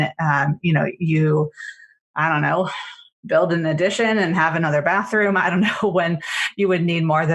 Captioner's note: laughs